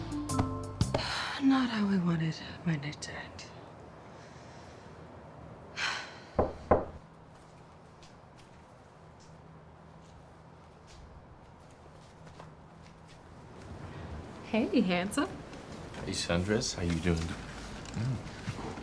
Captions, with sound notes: (Fern sighs) Not how I wanted my night to end. (sighs) (door knocks) Hey, handsome. - Hey, sundress, how you doing?